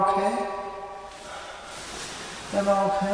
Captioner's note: sighs heavily